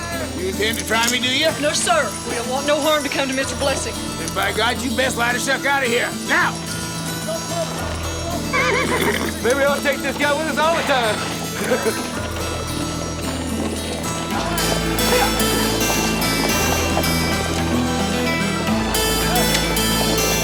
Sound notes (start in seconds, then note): 8.4 horse neighs; 14.2 suspenseful music continues